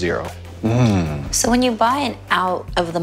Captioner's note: grunting